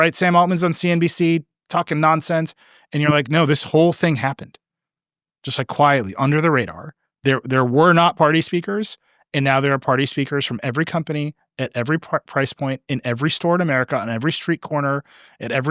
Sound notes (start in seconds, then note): none